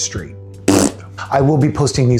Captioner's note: fart